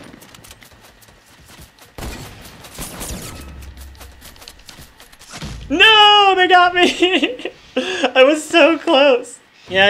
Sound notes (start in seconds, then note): 6.8 laughs